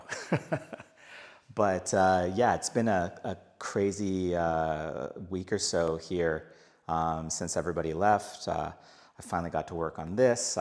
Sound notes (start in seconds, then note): 0.0 laughing